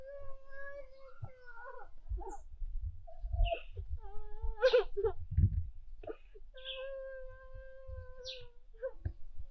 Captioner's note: groaning; groaning continues